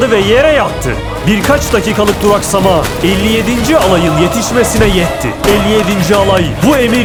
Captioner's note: gunshots